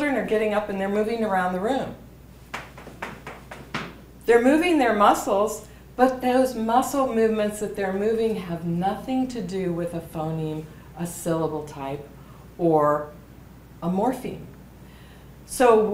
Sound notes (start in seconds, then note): 2.4 stomps